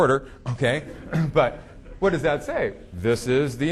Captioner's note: audience laughing